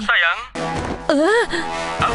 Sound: Choco gasps

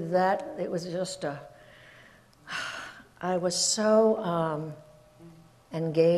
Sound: sighs

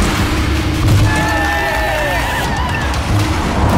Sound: crowd cheering

